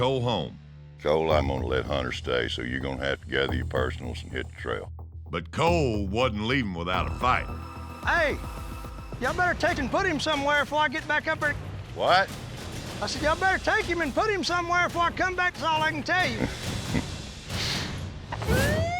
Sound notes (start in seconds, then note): 9.4 shouts angrily; 17.3 tense music